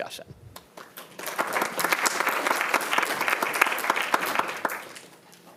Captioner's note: audience clapping